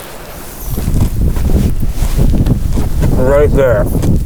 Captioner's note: air whooshing